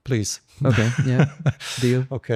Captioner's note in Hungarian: nevetés